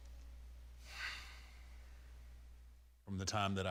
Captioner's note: Undertaker sighs